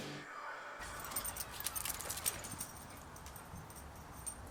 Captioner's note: dissonant whispers fade, panicked jingling and running